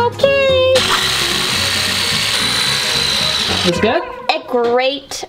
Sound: drill buzzes

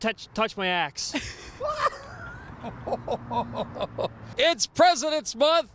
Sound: laughing

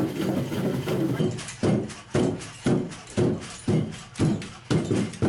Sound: footsteps thudding

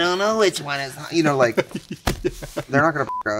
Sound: laughing; beep

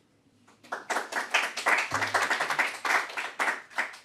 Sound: crowd applauds

